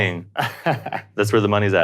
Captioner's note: laughs